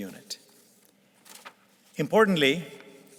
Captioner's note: paper rustling